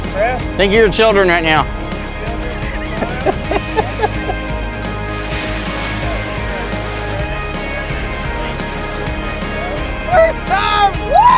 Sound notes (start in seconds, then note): 2.4 chuckling